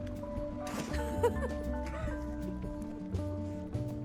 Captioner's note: laughter